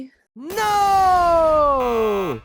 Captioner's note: button buzzing